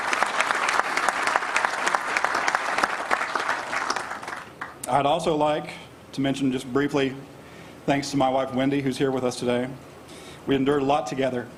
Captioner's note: applause